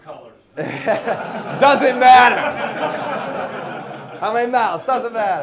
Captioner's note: class laughing